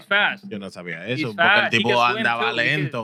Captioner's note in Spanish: Hablando en idioma extranjero